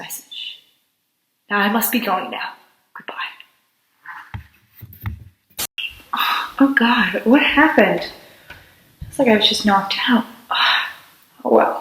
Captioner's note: Static